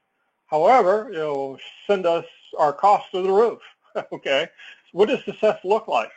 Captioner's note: laugh